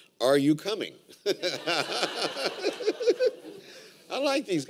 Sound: laughter

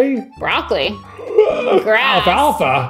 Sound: gasping

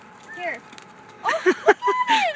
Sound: laughter

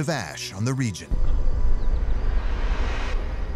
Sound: deep rumble

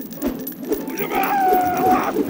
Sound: screaming

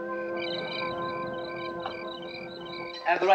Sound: crickets chirping

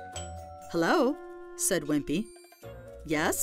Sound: doorbell rings

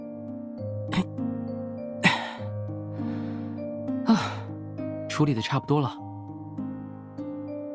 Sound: sigh

